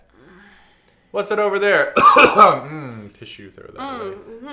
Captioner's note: cough cough